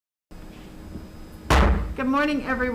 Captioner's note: gavel banging loudly